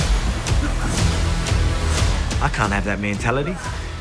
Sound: men grunting

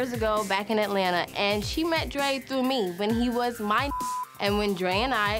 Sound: beep

